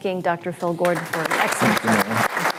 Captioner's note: applause